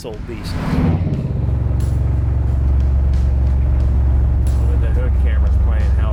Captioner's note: car engine roaring